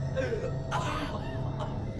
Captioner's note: woman sobbing